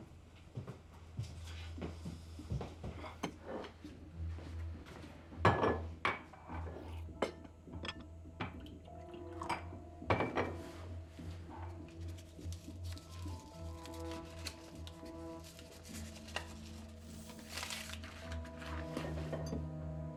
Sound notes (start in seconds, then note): 0.2 footsteps retreating; 5.1 glass thudding; 5.1 tense music; 8.9 liquid pouring; 10.1 glasses thudding; 10.8 tense music; 11.9 paper rustling